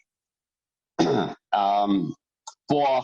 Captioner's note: clears throat